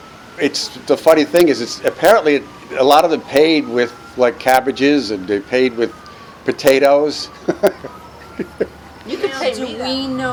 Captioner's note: laughs